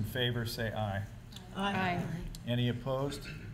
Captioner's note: chorus of ayes